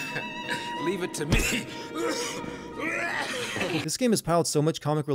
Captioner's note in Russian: кашель